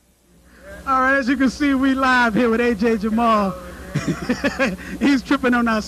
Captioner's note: laughter